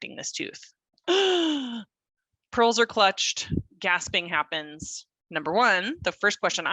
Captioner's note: gasps